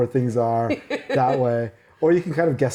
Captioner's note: laughing